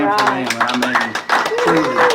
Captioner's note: applause